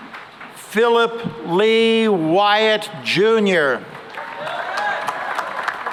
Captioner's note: cheering and applause